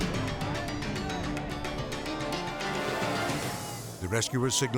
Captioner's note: villagers shouting